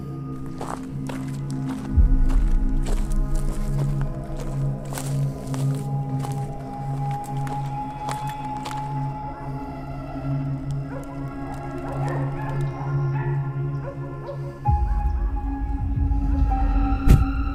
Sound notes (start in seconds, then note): 2.0 foot steps walking; 10.5 dogs barking